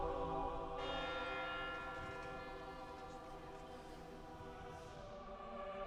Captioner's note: church bell tolling